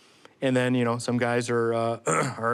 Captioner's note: ahem